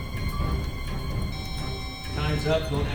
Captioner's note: loud beep